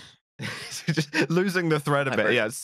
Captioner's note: laughs